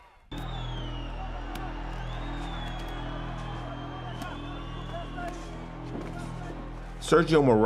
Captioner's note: crowd cheering